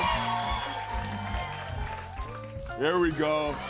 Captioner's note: cheers and applause